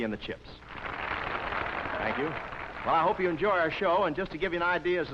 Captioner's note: applause